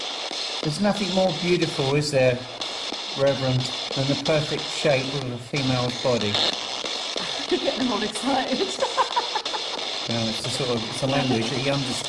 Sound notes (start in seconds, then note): 8.4 laughing